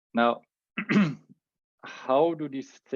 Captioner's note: clears throat